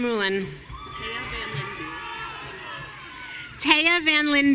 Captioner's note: audience cheering